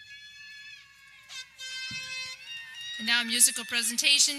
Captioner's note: air horn blares